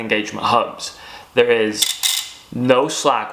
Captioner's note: metallic clanking